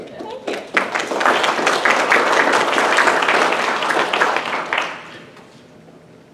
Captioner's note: clapping